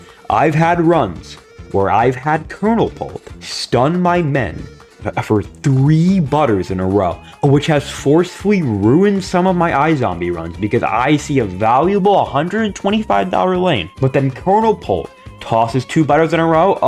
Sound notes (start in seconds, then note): none